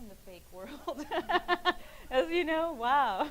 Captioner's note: laughing